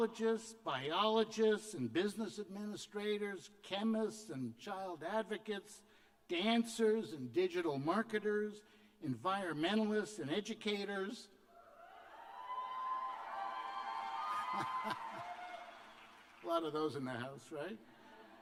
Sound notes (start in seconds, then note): 13.3 cheers and applause